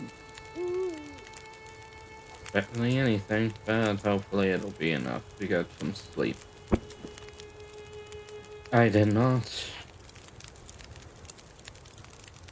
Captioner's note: sigh